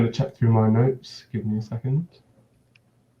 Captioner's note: hums